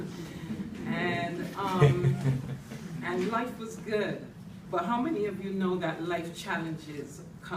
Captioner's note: laughter from the audience